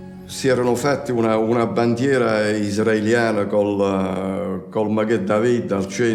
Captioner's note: speaks in foreign language